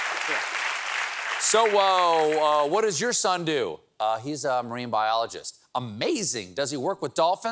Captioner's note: applause